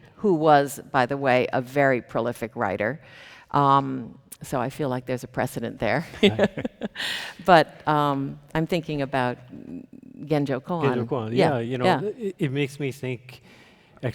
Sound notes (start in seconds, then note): 6.1 chuckles